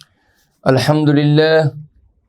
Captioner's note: arabic